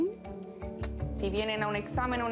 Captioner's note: kiss